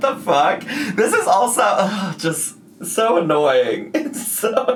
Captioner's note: groans